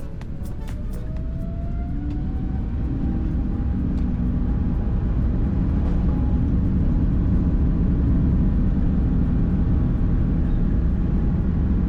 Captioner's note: engine spool up